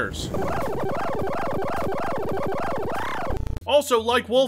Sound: ear-ripping AdLib sound effects

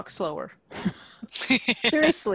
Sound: laughter

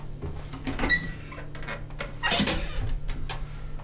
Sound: door creaks open

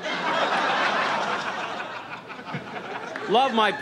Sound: audience laughs

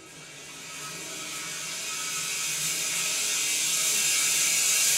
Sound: saw whirring

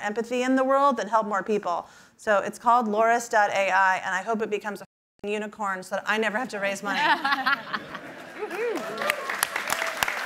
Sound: laughter and applause

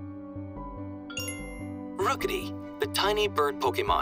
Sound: suspenseful music; Rotom Phone chimes

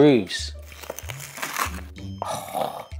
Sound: sandwich crunching

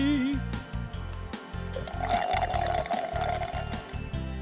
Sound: slurps

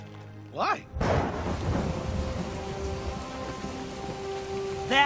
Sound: thunder crashing

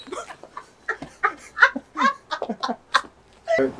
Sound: laugh

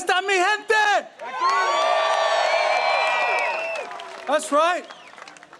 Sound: in spanish; audience cheering

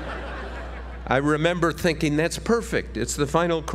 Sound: laugh

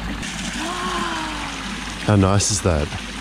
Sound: gasps

